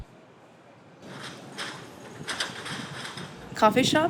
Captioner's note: metal rattling